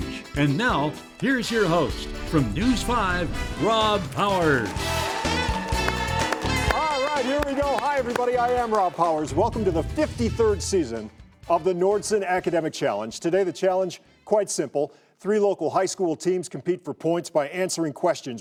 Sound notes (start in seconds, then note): 4.6 clapping; 4.8 audience cheering